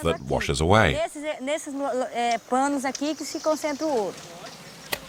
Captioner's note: Portuguese spoken audio